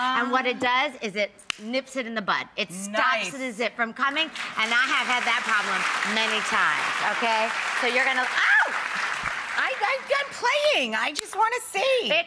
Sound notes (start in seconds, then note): 7.3 audience applauds